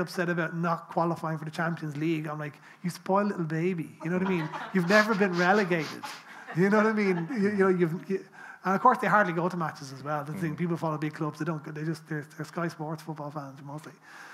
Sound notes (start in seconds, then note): 4.0 people laughing